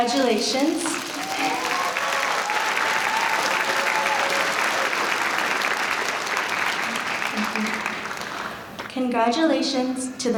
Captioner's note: applause